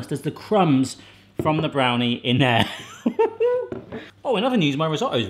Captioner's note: laughs